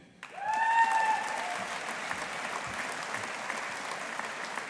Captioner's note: audience applauding